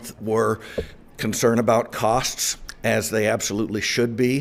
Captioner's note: none